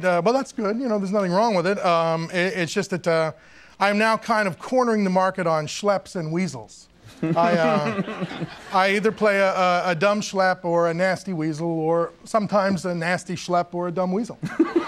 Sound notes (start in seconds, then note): 7.1 Conan chuckles; 14.4 giggling